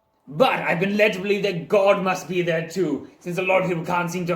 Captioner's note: none